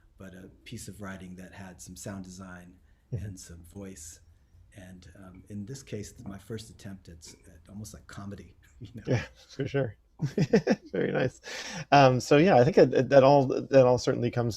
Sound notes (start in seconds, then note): 10.2 chuckles